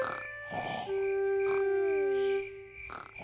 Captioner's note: george snoring